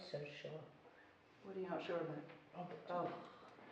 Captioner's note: none